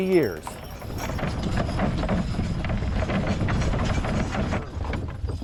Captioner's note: horse hitch rattling